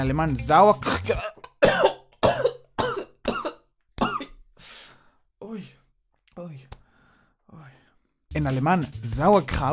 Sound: coughs in German

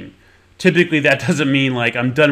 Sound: chuckles

